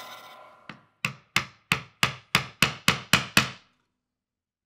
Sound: chisel pounding

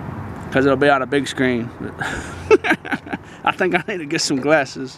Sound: laughing

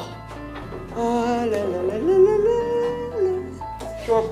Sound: humming

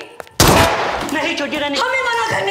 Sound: gunshot

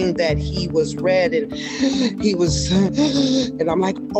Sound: gasping

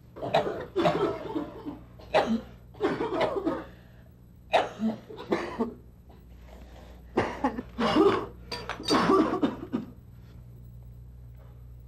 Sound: mass coughing

